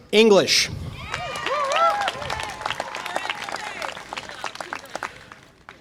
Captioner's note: audience applause and cheer